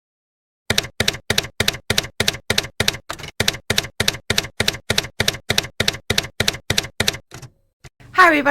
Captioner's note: typewriter keys clacking